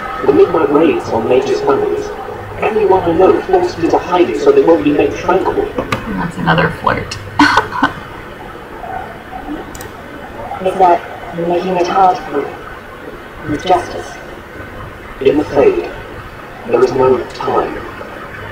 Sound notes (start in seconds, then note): 7.3 chuckling